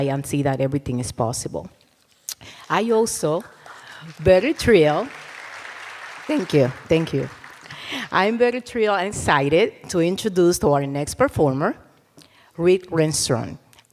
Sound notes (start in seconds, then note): 5.0 cheers and applause